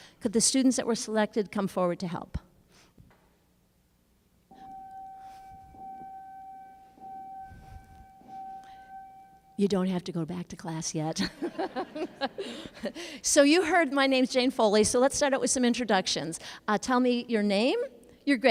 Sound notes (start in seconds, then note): 4.5 sound of school bell ringing